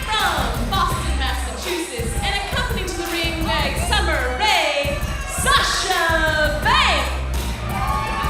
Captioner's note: crowd cheering